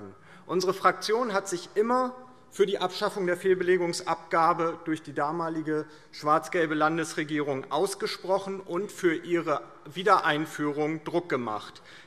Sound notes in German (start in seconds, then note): none